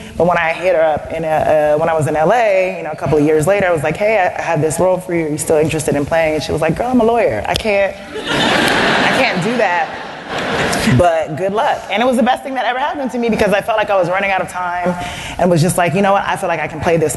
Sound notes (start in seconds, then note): 8.1 laughter